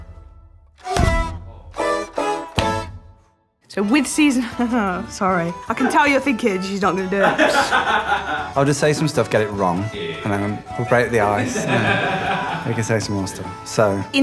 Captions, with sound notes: So with Season... [laughing] Sorry, I can tell you're thinking she's not going to do it. I'll just say some stuff, get it wrong, and then we'll break the ice. [Laughing] Then I can say some more stuff, so.